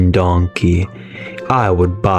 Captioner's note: inhales Oxygen